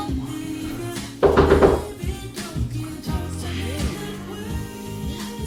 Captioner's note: knuckles rapping